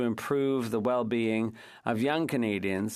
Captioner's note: speaking French